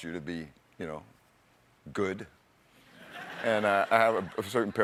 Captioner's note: laughter